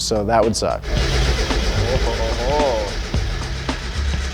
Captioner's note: engine turning